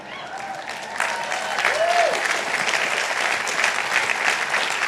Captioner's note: audience applauding